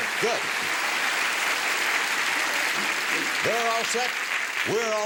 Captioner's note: applause